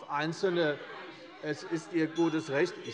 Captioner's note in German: Unruhe - Glockenzeichen der Präsidentin